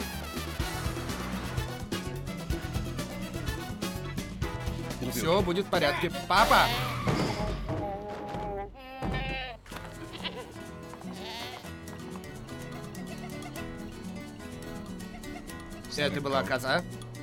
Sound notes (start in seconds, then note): 6.3 bleating; 7.3 tires screeching; 9.0 thumping; 9.8 bleating